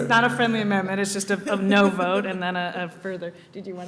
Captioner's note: laughter